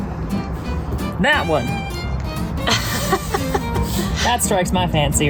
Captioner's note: laughs